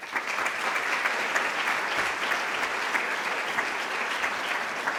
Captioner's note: applause